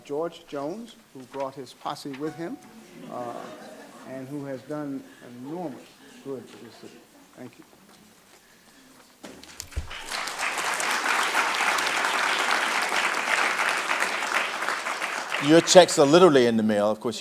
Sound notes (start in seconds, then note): 9.4 audience clapping